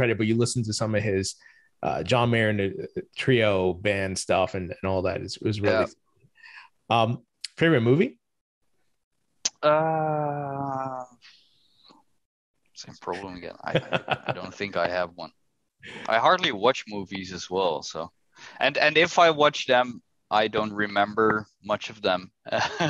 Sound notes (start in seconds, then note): 13.6 laughter; 22.5 laughter